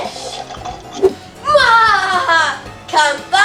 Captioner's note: laughs wickedly